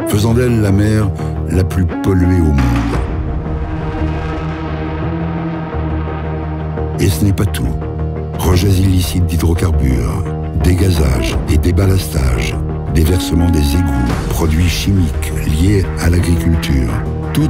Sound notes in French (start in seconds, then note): none